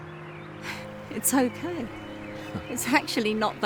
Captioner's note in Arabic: تنهدات